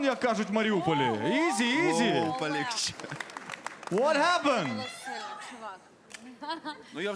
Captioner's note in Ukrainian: оплески